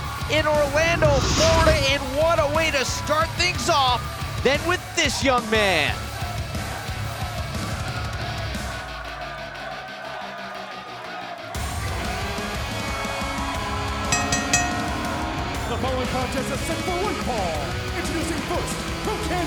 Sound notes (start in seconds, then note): 14.1 bell ringing